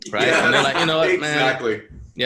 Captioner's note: laughter, voices overlapping